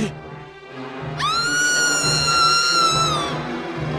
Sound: Rebecca Screams From Another Room

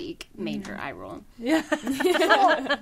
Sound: all laughing

